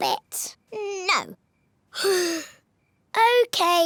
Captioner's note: sighs